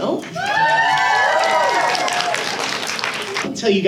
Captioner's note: audience cheers